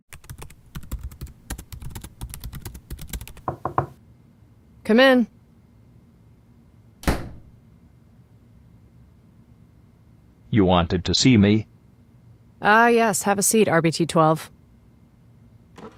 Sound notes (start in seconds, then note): 0.1 typing; 3.4 knock on door; 7.0 door opens and closes